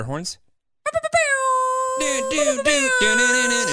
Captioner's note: imitates air horns; boyfriend vocalizing